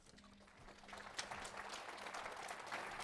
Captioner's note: applause